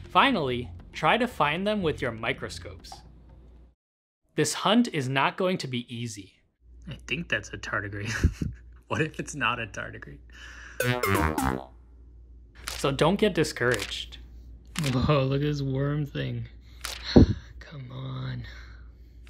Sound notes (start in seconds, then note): 8.0 chuckles; 8.1 chuckle; 10.8 failure sound; 13.6 page flip; 13.6 page flips; 16.8 page flip; 17.0 sigh